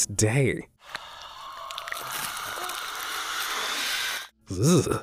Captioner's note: Pale Man hisses; narrator groans